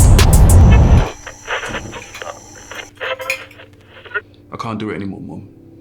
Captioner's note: car horn, old-fashioned radio playing music